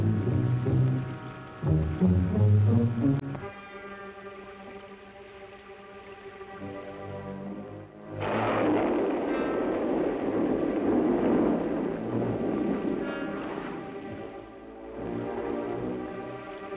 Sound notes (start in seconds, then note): 0.1 suspenseful music; 8.1 thunder clapping; 13.4 suspenseful music